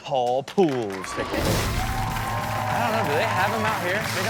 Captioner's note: audience cheers; upbeat rock music